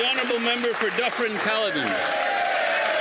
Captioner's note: applause; speaking Indigenous Language